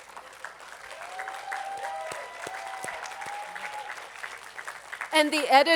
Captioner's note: attendees applauding